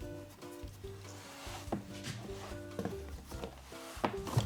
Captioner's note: peel sliding